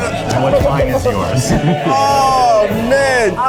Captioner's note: laughs